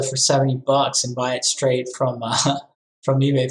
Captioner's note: laughs